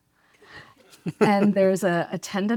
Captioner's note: laughs